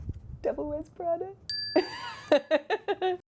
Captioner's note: bell dinging; Emily laughing